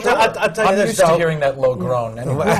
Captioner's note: laughter